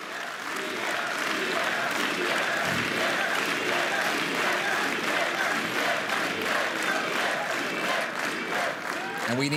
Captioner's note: applause